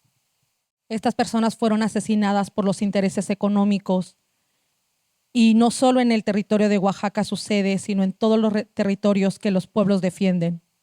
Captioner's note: speaking Zapotec language